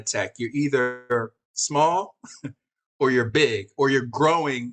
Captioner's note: chuckles